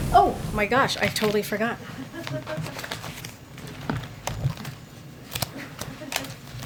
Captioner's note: laughter